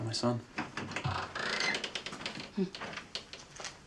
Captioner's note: door creaks